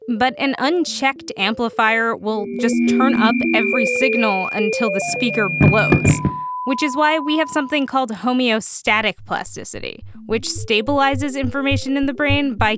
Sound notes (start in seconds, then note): 6.2 beeps